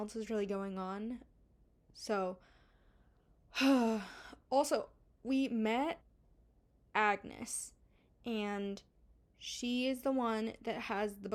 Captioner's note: sigh